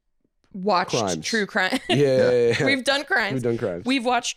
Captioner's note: laughs